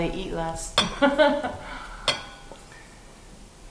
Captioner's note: laughs